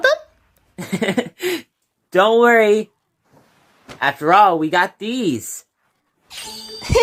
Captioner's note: Nate laughs; Hailey giggles